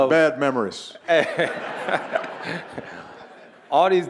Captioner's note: audience laughing